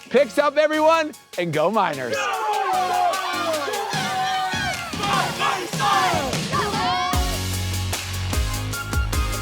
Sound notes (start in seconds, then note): 2.1 cheerleaders cheer; 7.1 upbeat music